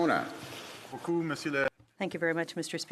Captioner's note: speaking French